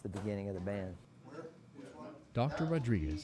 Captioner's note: murmuring